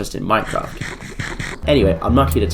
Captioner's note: scrumdiddlyumptious chomping sounds